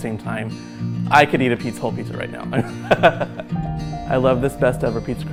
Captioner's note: laughs